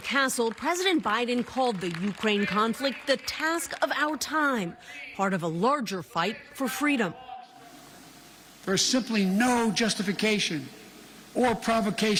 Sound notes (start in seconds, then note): 0.0 applause